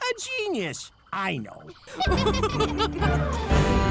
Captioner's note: laughter